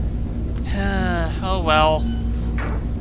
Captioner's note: sighs